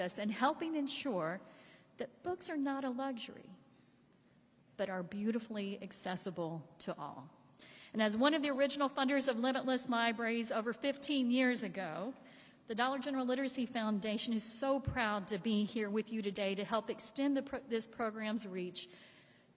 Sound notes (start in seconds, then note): none